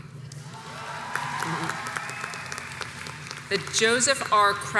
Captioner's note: audience cheers and applauds